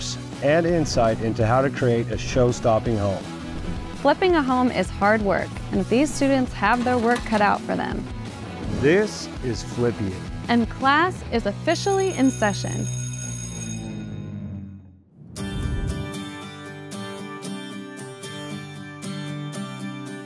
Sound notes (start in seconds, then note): 11.7 bell ringing; 15.3 upbeat music